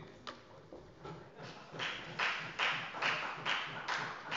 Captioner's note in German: Beifall bei der FDP